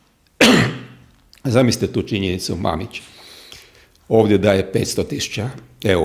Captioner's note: cough